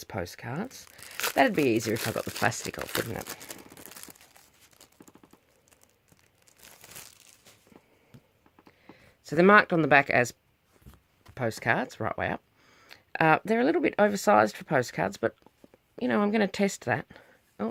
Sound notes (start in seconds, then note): 3.4 plastic sleeve rustling; 6.1 more rustling